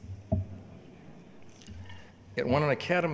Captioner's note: audience murmuring